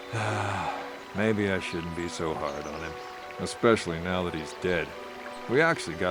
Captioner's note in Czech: Povzdech